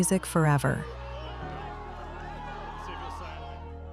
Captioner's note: crowd cheers; gentle music